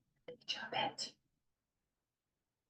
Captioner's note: whispers